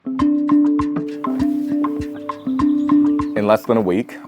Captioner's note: birds chirping